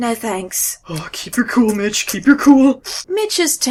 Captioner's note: squish, squish, squish